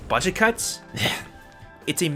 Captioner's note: gutteral noise